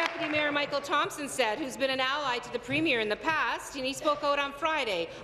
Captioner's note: applause